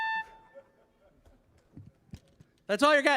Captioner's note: audience laughing